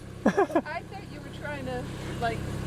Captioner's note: laughs